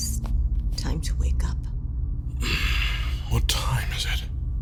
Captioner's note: whispering